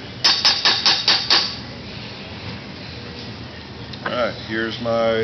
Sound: metal clanging

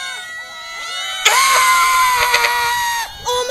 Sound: freaked out screeching

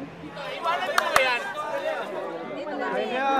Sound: indistinct chattering

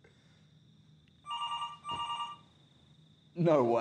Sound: phone ringing

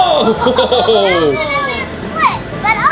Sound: laughs

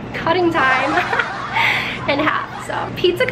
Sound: crowd laughs; laughs

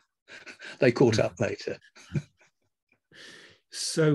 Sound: laughs

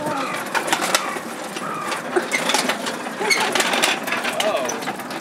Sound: creakity crackity slide made of rolling cyllinders

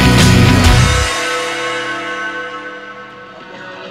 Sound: bell ringing

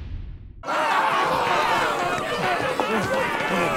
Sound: dramatic sound; yelling

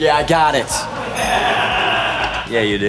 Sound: laughing

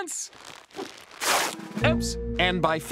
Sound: ripping

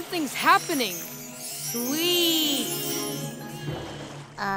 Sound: echoing

